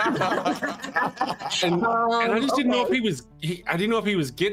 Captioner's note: laughing